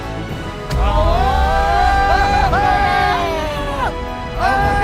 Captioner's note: screaming